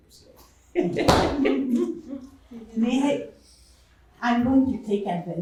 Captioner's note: chuckling